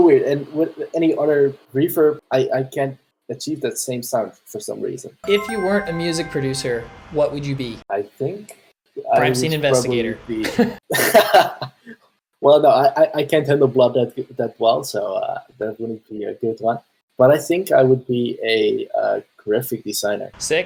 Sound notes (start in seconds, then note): 10.4 laughter